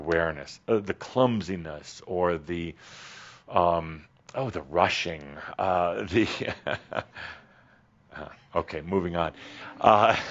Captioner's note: Adamus chuckles